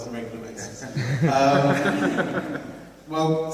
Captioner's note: laughs